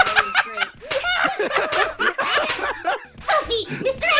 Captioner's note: smacking; laughter; laughing